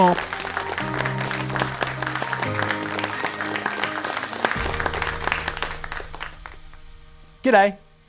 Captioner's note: applause